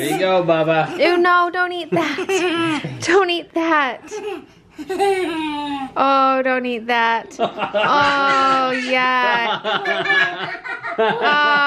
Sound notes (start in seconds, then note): 1.8 laughs; 4.8 laughs; 7.5 laughs